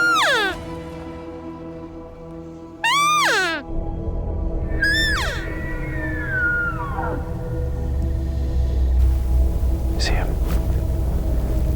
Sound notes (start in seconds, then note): 2.8 elk call chirping; 5.3 suspenseful music; 7.5 elk bugling